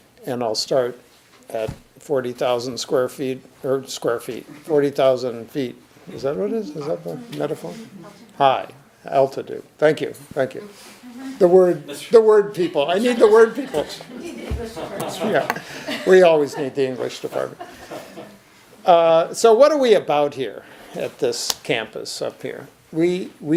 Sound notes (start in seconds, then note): 14.4 audience chuckles